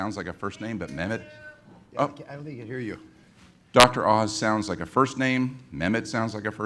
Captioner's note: voice from audience